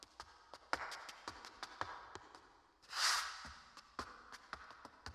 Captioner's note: shoes clacking